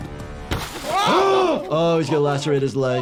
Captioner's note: car window smashing